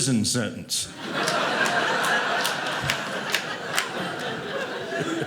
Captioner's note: audience laughing